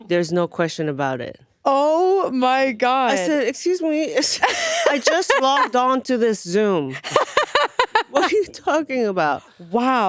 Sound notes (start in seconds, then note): 6.9 laughing